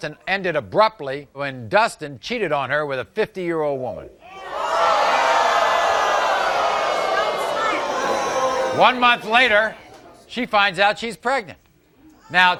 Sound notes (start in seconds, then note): 4.3 audience booing; 4.3 audience yelling